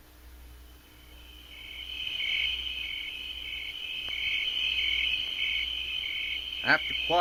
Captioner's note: insects chirping